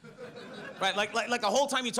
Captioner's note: audience laughs